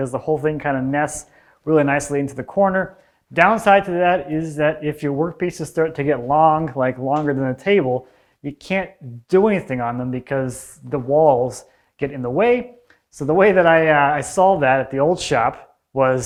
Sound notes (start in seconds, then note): none